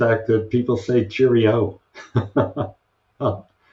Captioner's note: chuckles